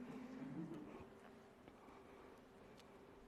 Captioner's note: laughter